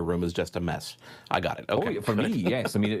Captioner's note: laughs